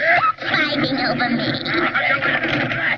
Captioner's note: more background wrangling